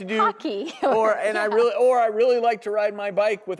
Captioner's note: laughing